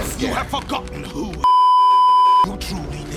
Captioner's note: beeeeeep